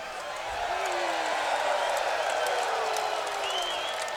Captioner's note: crowd cheers